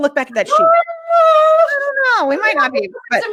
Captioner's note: high pitched noise